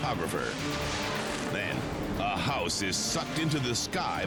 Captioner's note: air whooshes